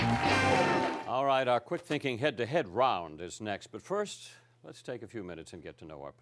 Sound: cheering and applause

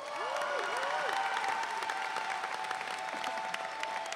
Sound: audience cheering

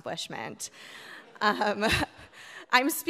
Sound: audience laughing

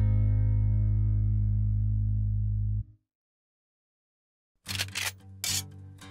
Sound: guncocks; sizzle

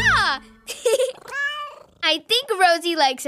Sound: giggles; cat meows and purrs

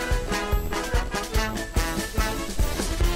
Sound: sfx: fireworks exploding

